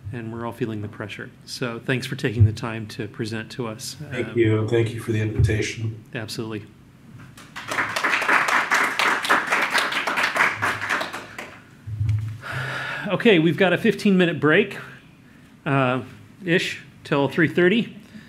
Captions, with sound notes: and we're all feeling the pressure. So, thanks for taking the time to present to us. - Thank you, thank you for the invitation. - Absolutely. (audience applauds) Okay, we've got a 15 minute break-ish till 3:30.